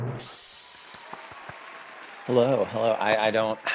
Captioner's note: drum roll; audience cheering